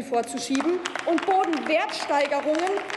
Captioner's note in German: Applaus